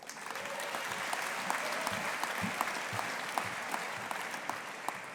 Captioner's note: audience applauding